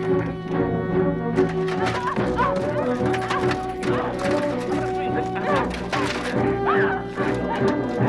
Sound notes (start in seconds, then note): 1.3 armor clattering; 2.2 Hundra grunting